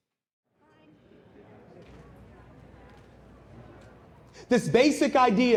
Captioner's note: people chattering